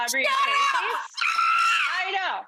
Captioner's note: screams